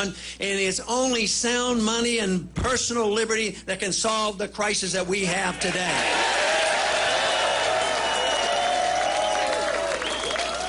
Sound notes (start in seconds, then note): 7.5 applause